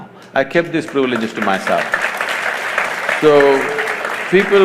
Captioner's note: applause